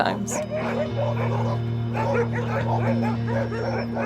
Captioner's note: dog barking